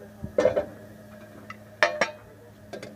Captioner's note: cooking sounds